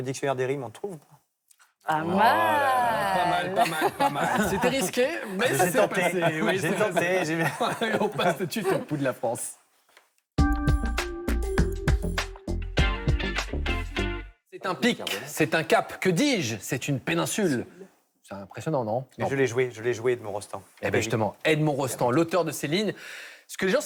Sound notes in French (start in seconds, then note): 6.9 rires